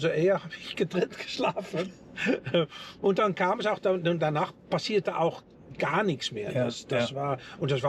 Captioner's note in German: gelächter